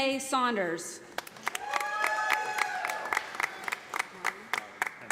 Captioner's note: audience applauding